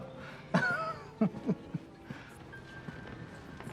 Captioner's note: laughs